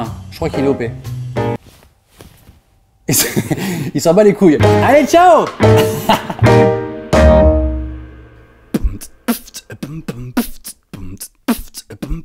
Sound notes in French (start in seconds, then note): 3.1 rires; 8.7 beatbox